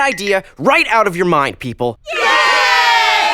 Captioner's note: cheering